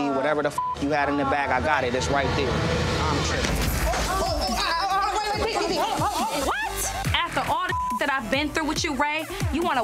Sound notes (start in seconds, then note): 0.5 beep; 3.4 thud; 3.5 shouting; 4.4 women shouting; 7.6 beep